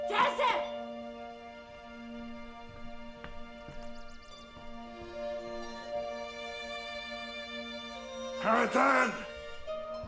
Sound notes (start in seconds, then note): 3.8 birds singing